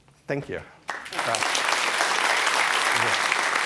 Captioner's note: applause